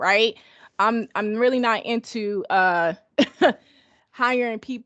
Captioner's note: laughs